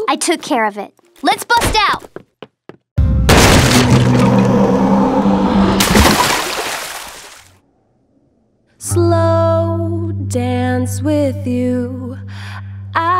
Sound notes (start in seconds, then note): 3.3 wood crashes; 5.8 water splashes